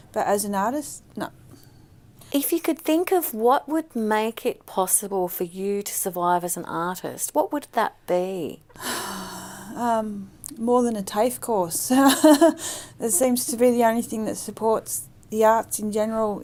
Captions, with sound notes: but as an artist, nup If you could think of what would make it possible for you to survive as an artist, what would that be? (sighs) um, more than a TAFE course (laughs) it seems to be the only thing that supports the arts in general